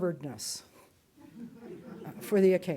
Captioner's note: audience chuckles